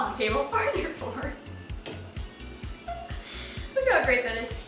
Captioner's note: laughter